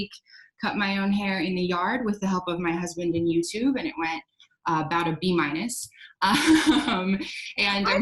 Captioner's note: laughs